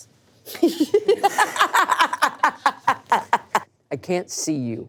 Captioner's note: laughing